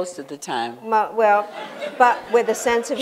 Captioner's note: laughter